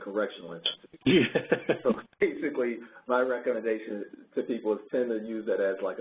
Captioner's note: laughing